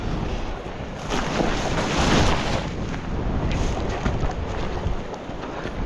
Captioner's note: vegetation crunching